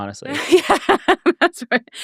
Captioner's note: laughing